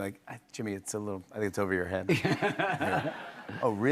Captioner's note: laughs